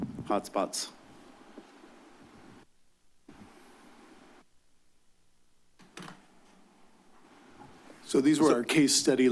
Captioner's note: silence